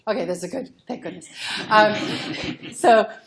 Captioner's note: laughter